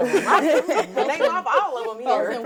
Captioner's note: all laughing